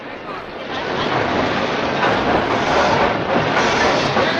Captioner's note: boy speaks Spanish; train roars; stationmaster yells in Spanish